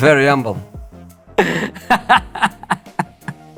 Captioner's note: laughs